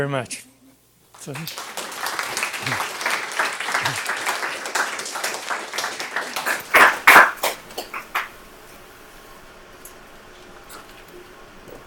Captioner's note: applause